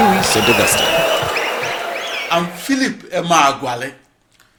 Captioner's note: wild applause and cheering for 22 seconds